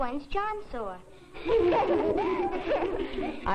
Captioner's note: giggling